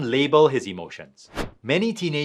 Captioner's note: transition whooshing